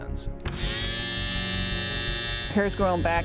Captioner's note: shaver buzzing